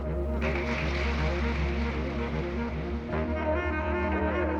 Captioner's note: crowd applauding